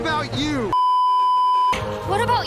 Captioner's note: beeeeeeeeeeeep